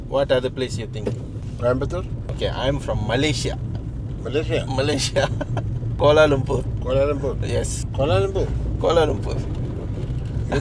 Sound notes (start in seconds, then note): 5.0 laugh